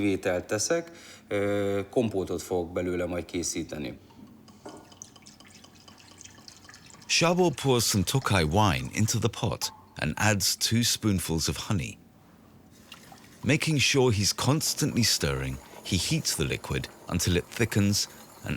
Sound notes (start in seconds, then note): 4.0 wine pouring